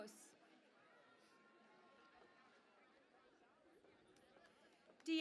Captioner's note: cheering and Applause